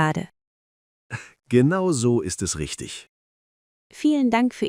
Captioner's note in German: Lacht